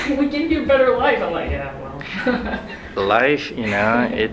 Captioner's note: laughs